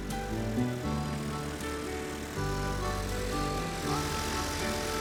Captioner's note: plane engine roaring